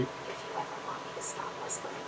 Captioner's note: still whispering